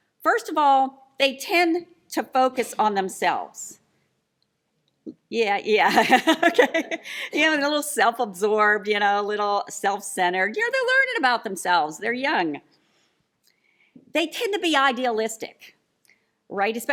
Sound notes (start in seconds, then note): 6.2 laughs